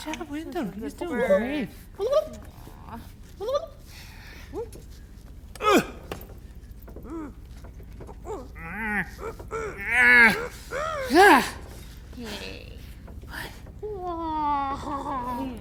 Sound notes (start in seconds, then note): 5.8 Wendell grunting; 5.8 grunting; 13.2 Wendell squawking